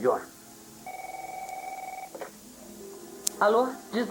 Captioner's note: phone rings